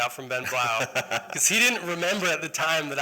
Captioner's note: laughter